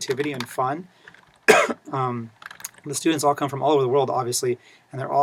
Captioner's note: cough